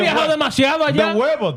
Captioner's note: speaking In Foreign Language